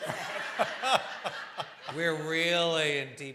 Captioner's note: laughter